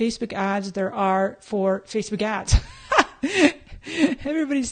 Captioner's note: laughs